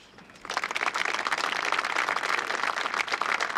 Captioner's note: applause